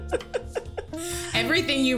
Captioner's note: laughter